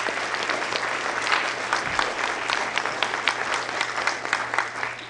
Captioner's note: applause